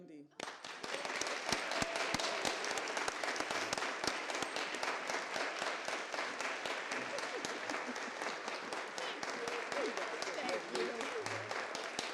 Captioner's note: applause